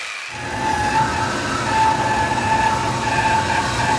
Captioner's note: machine whirring